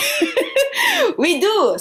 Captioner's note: laughter